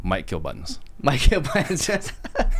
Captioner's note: laughing